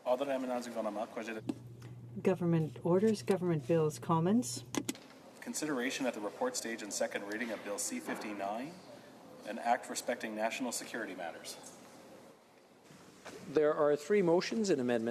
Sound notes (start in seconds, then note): 4.1 speaking French